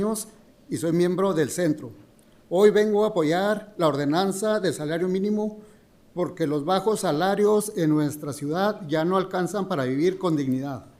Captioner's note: speaking in spanish